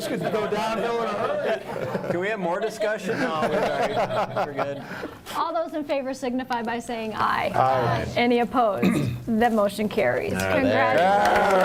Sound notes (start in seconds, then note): 0.0 laughing